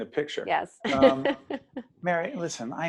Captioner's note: laughing